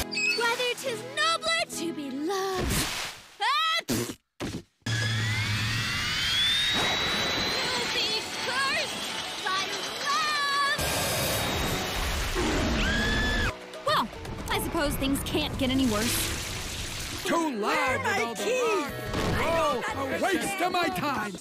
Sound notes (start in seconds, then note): 3.8 sneezes loudly; 4.8 jet engine starts up